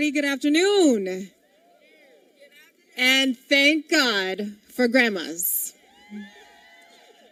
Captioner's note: applause